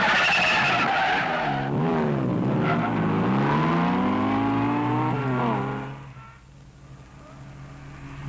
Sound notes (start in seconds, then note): 4.9 engine revving